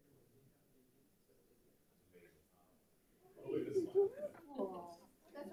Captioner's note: people chatter